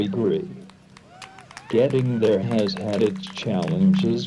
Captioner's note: audience applauds